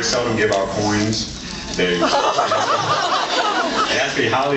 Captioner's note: laughs